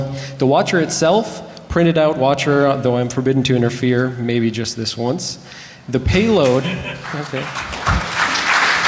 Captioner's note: applause